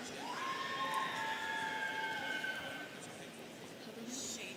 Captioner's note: students cheering